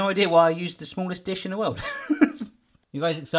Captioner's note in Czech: smích